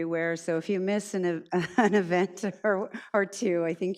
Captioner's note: chuckles